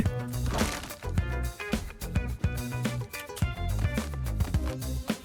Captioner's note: footsteps